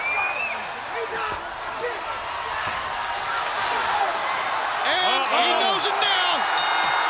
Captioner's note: crowd chatter